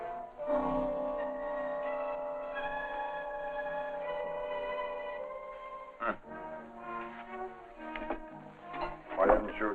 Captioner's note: bell